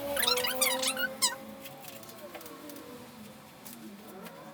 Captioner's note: high pitch squeaking